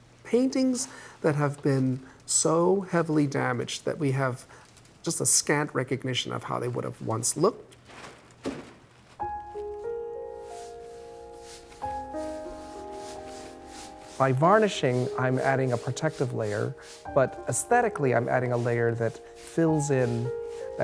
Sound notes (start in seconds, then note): 9.3 gentle music; 10.3 paintbrush brushing